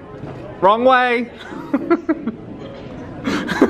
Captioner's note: laughs